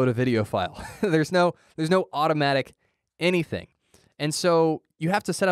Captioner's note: chuckle